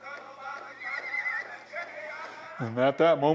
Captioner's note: horse whinnies